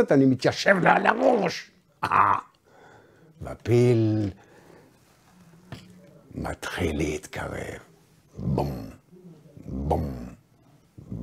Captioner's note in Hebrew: בום בום בום